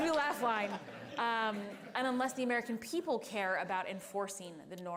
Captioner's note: laughter